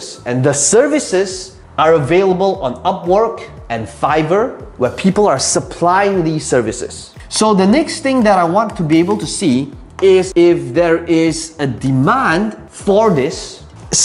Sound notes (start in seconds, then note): 9.9 tapping marker